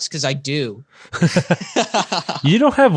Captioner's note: laughing